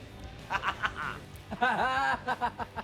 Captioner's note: laughing